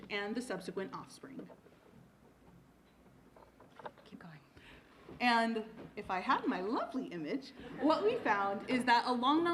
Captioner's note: laughter